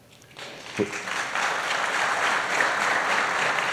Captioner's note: applause